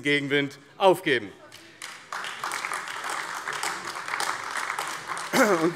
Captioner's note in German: Beifall AfD